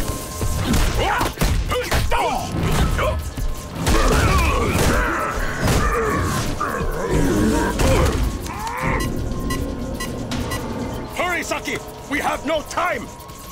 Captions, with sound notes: [grunting] [grunting] [beeping] Hurry, Saki, we have no time!